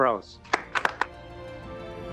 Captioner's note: applause